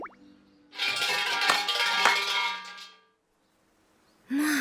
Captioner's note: bell ringing and clapping